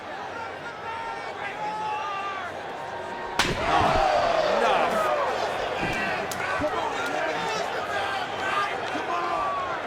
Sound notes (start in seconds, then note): 3.7 chair crashes; 3.7 crowd gasps; 6.9 crowd murmuring